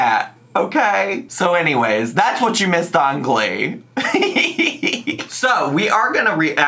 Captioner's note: laughs